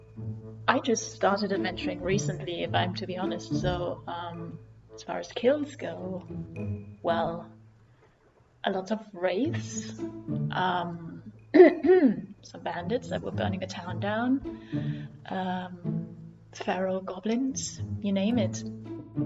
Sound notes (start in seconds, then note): 11.6 clears throat